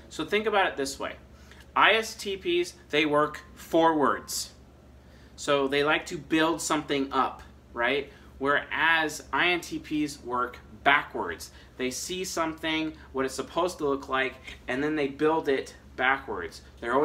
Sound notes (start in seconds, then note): none